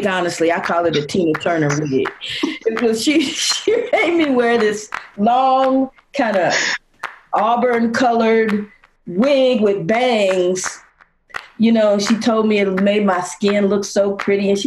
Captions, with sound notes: honestly I call it a Tina Turner wig, because (chuckling) she made me wear this long kinda auburn colored wig with bangs. She told me it made my skin look so pretty